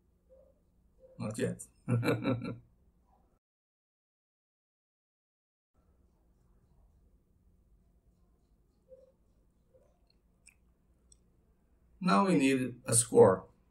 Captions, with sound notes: Not yet (laughing) Now we need a score